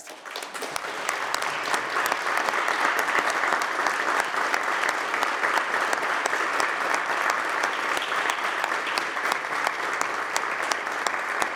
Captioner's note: applause